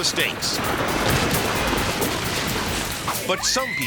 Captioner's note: silo thudding